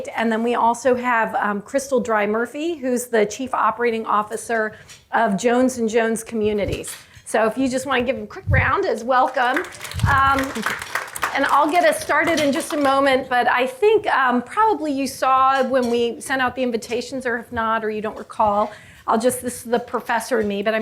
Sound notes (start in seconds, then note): 9.2 audience clapping